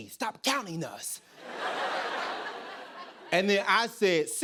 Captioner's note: laughter